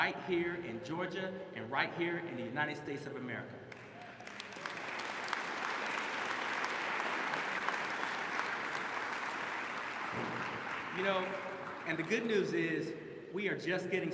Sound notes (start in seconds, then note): 7.0 applause